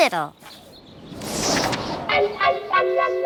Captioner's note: wind gusting